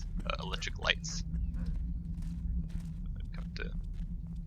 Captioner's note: guard coughs, footsteps